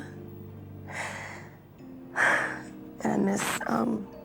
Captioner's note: breathes deeply